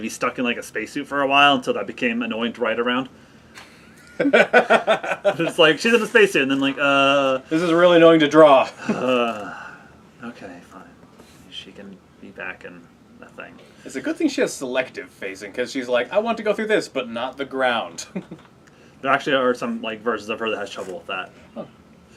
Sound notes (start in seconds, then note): 4.0 laughs; 8.8 groan